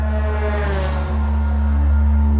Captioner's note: truck horn blows